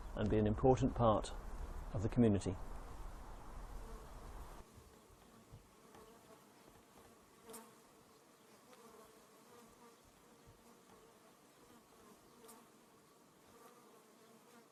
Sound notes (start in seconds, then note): 7.3 bees hum